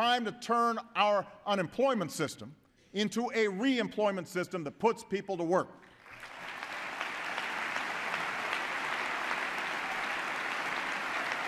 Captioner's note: applause